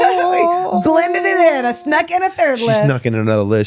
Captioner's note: laughing